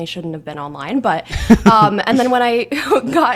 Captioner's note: laughs